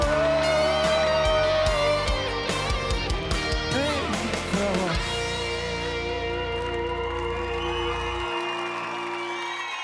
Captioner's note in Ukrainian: оплески